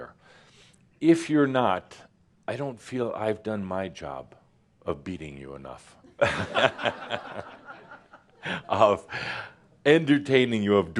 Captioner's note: laughter